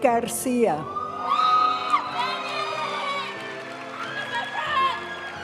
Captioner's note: audience cheering and applauding; graduation music